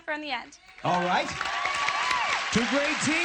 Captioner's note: applause